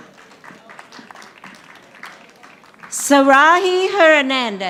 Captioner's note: audience applauding